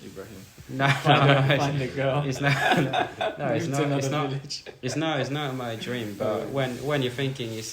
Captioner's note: laughing